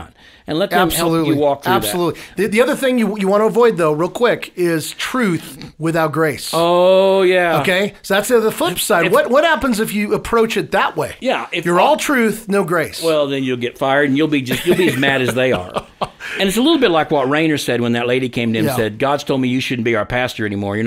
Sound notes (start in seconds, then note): 14.5 laughing